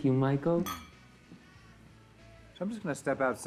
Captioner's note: glasses clinking